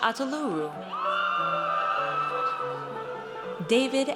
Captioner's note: audience cheers